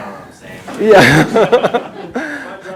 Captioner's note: chuckles